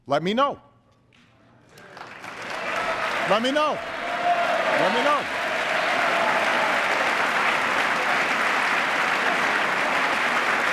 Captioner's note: applause